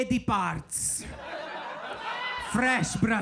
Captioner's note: audience laughing